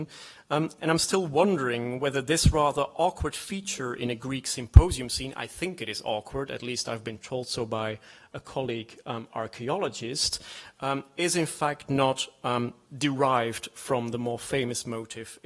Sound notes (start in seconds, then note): none